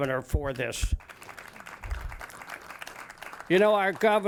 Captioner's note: audience claps